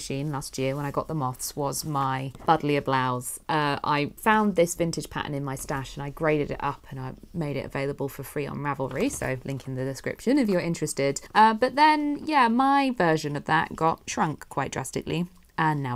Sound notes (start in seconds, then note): none